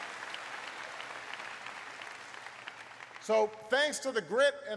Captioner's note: applause